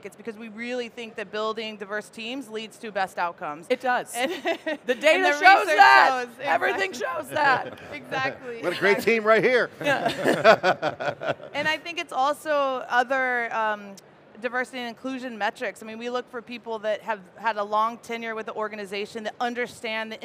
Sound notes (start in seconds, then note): 4.1 laughs; 10.0 laughs